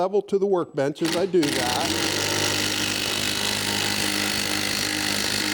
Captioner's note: drills into wood